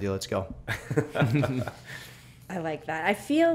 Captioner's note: laughter